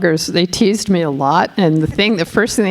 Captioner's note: laughing